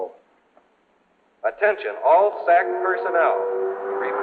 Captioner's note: man on PA